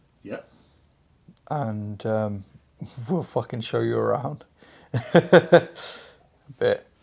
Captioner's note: laughs